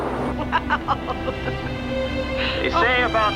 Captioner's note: laughing